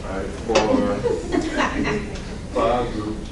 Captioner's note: laughing